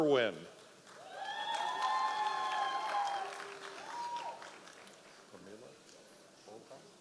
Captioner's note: members of the audience cheering